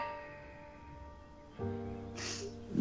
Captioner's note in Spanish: Santiago exhala